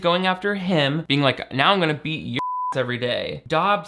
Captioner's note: beep